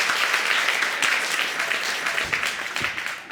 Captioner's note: audience applauding